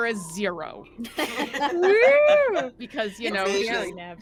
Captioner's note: characters laugh